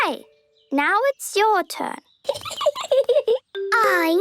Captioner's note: Peppa giggling